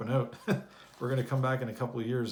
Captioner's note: chuckles